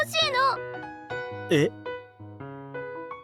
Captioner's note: sigh